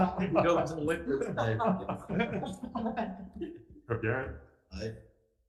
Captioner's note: members chattering; members laughing